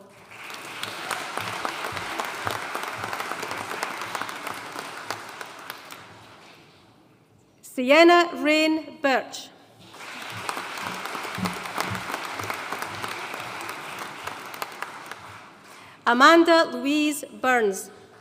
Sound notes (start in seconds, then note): 0.0 audience applauding; 9.8 audience applauding